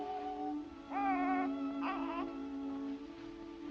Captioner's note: baby coos; reflective music